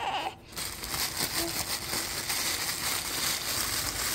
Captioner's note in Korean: 비닐 소리